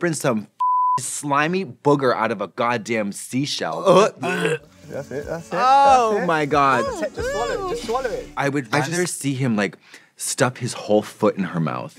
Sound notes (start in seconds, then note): 3.9 blonde women gagging; 6.7 gagging, groaning